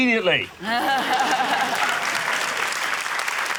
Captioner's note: laughter, applause